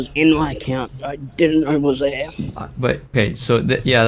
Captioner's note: strains voice